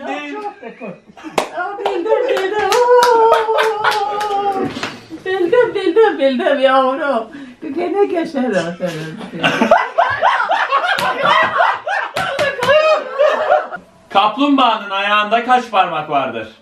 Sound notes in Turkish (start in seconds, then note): 2.3 alkiş ve kahkaha sesi̇; 9.1 kahkaha sesi̇